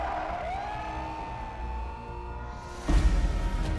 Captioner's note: crowd cheering